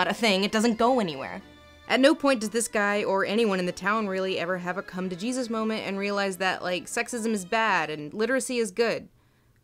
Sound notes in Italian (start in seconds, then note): 2.1 voce fuori campo